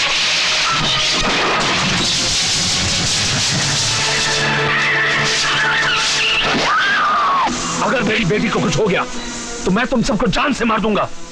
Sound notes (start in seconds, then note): 6.2 scream